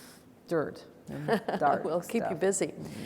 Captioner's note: laughs